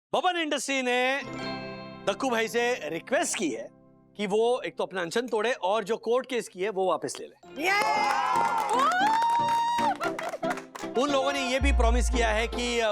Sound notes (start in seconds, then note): 7.7 all clap